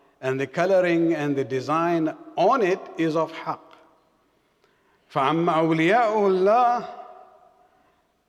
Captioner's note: arabic